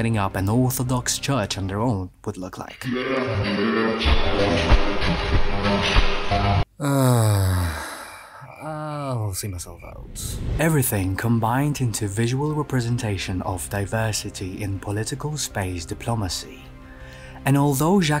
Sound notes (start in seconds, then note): 6.8 sigh